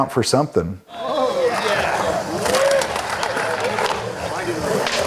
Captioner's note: spectators cheering